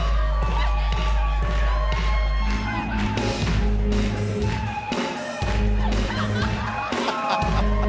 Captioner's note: crowd cheering